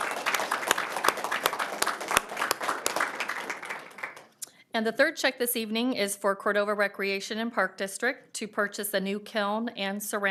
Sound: applause

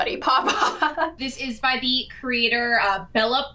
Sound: laughs

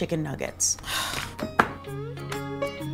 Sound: sighs; gentle, upbeat music

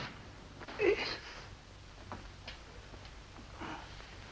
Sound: Jim groans

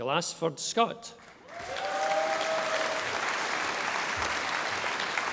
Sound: audience applauding

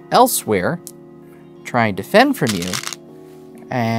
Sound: stones rattling

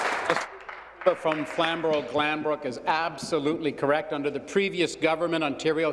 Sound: applause

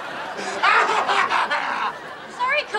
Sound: crying

